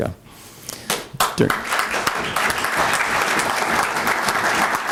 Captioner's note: applause